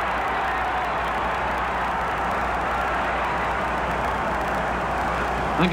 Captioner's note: crowd cheers